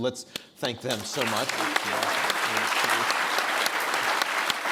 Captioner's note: everyone applauds